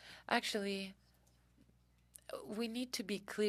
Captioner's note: speaking French